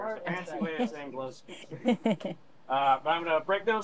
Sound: chuckling

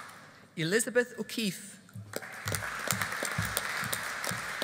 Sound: audience applauding

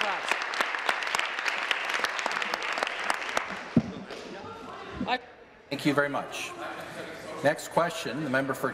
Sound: applause

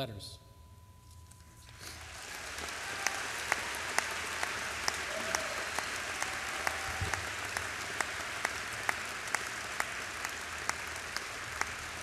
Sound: applause

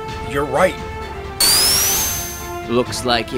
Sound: sonic whirring

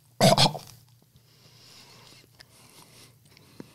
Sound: coughs

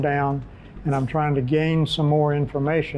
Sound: whooshing

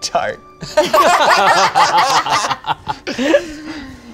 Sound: all laugh

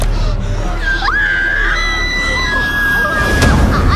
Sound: screams

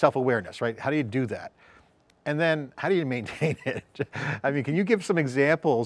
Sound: laughs

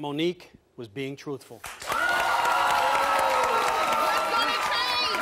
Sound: audience applauding

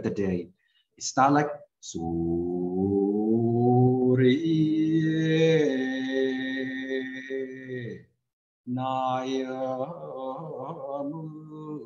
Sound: recites in Thai

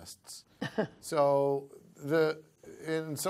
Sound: laughter

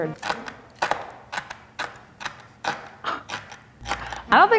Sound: knife chopping

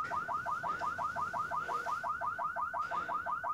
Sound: car alarm blaring

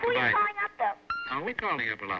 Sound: on phone

